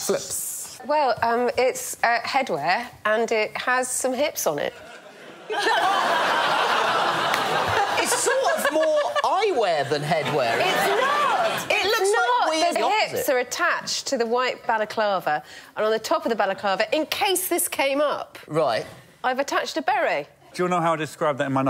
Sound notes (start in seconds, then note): 4.8 laughter